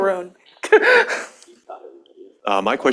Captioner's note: laughter